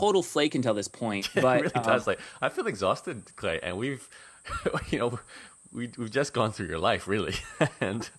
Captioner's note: laughs